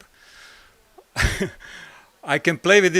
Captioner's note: laugh